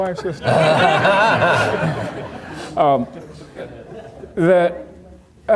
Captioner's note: audience laughing